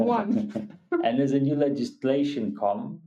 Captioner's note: laughing